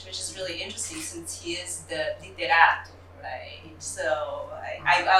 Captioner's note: non-english